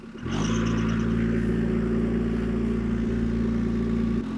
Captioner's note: engine revving